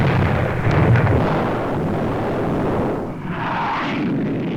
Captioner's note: sonic Boom